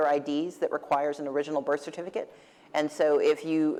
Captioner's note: none